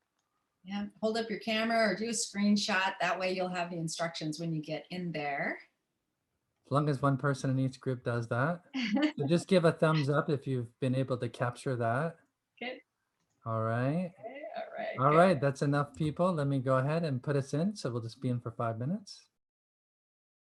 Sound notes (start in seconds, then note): 9.2 laughter